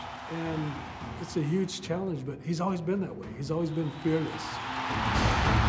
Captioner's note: cheering